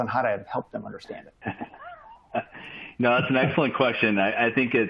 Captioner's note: laughter